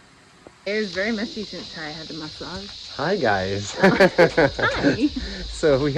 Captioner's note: laughing